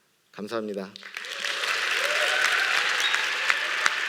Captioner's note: applause